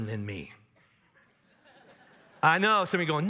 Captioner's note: audience laughs